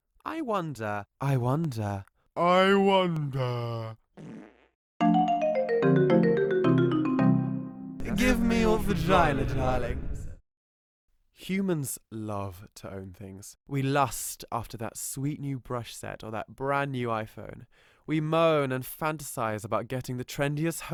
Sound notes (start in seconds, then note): 4.1 farting; 5.0 xylophone music